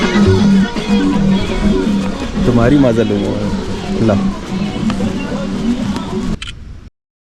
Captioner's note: crowd buzz and music